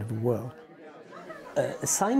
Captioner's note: people chatting